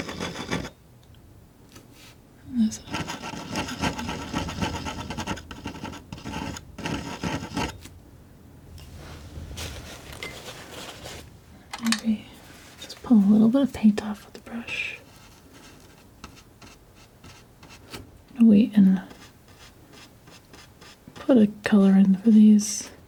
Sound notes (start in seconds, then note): 0.0 scratching; 5.2 scratching